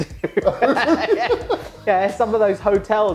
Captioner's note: laughter